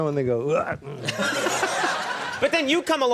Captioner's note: laughing